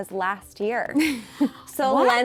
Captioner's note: laughs